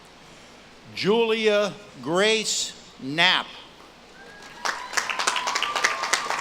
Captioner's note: audience claps and cheers